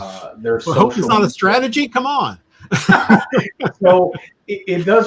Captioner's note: laughter